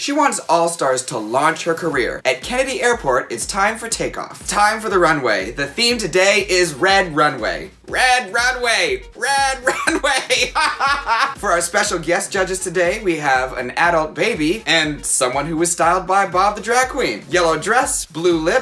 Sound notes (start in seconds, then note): 9.6 laughing